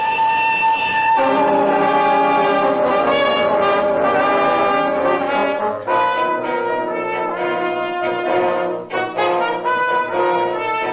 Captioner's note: hooters of the train and music